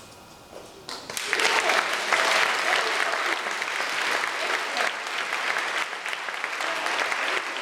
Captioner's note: audience applause